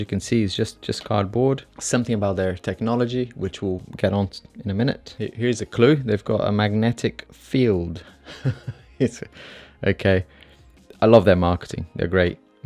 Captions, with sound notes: Something about their technology which we will get onto in a minute Here's a clue! They've got a magnetic 'field' (laughs) I love their marketing, they're great.